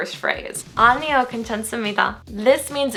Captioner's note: foreign language